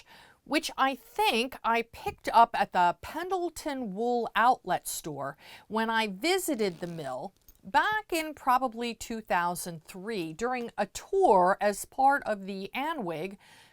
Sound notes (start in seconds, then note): 6.3 zip